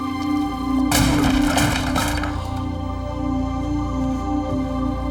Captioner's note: door crashing